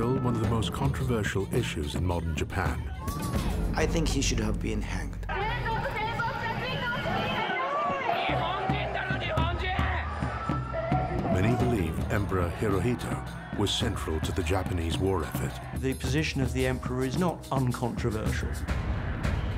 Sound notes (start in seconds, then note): 5.2 woman speaking in foreign language; 8.5 man speaking in foreign language